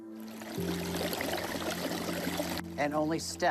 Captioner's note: water sloshing